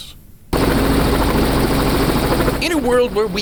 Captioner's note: helicopter blades whirring